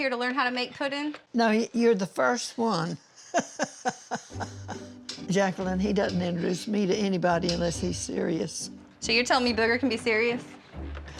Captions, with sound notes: TO LEARN HOW TO MAKE PUDDING? NO, YOU'RE THE FIRST ONE. [LAUGHING] JACLYN, HE DOESN'T INTRODUCE ME TO ANYBODY UNLESS HE'S SERIOUS. SO YOU'RE TELLING ME BOOGER CAN BE SERIOUS?